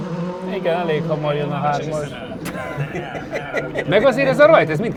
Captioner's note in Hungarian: nevetés